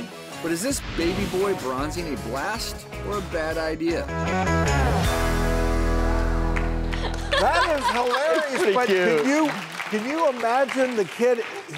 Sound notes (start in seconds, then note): 3.9 dramatic music; 6.9 giggles